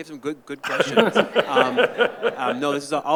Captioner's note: participants laughing